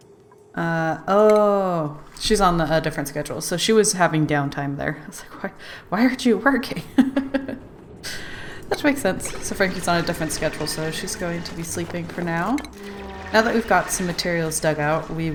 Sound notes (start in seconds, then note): 6.7 laughs